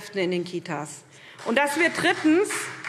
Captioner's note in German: Beifall SPD